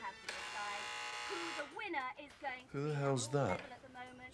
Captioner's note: doorbell buzzes